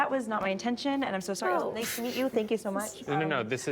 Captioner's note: scoffs